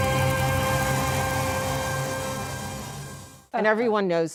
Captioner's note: cheers and applause